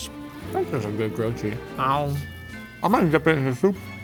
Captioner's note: vocalizes